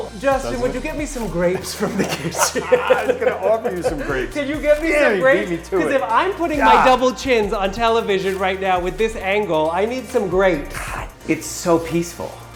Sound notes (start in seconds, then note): 2.0 chuckling